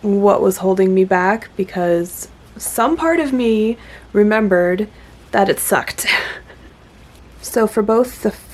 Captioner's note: laughs